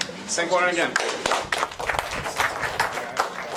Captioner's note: applause